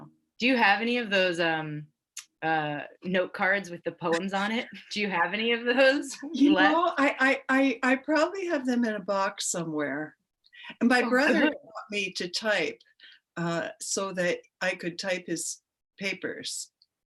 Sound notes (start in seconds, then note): 5.9 women chuckling; 11.1 laughs